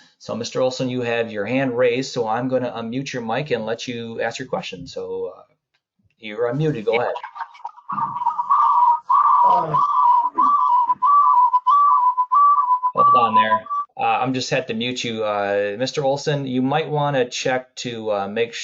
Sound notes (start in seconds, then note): 8.7 static interference